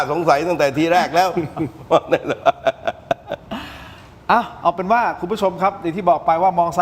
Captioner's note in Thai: เสียงหัวเราะ